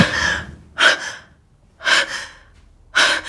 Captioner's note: gasping